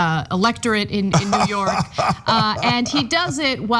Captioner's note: laugh